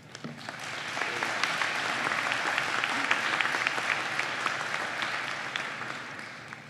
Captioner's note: applause